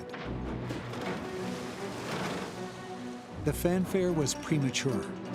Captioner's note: machinery clanging, water splashing